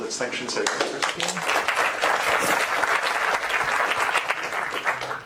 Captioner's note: applause